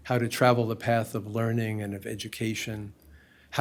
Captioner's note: none